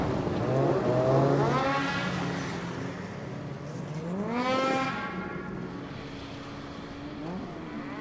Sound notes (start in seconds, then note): 0.0 snowmobiles roar